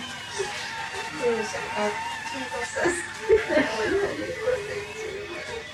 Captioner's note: speaking in foreign language